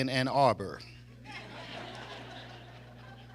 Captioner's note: audience laughs